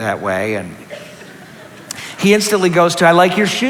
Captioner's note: laughter